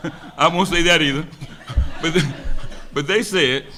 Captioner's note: laughs